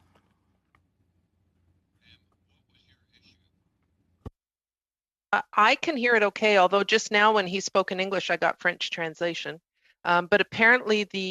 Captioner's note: speaking French